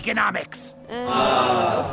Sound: class groans

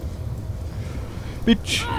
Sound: grunts

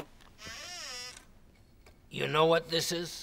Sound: case creaks

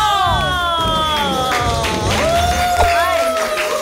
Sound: applause

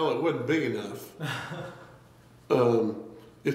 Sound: laughs

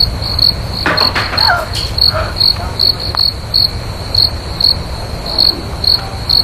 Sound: something fell on the floor

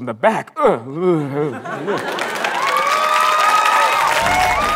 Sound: shudder

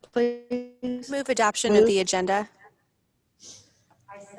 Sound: voice distorted

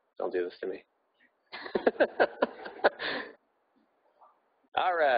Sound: laughing

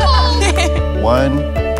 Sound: both laugh

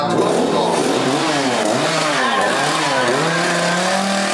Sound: chainsaw noises

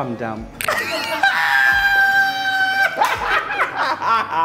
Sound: laughs

